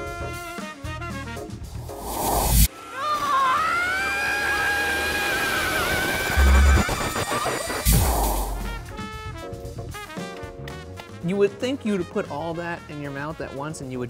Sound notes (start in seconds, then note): 1.9 dramatic whooshing; 3.1 yelling; 7.5 dramatic whooshing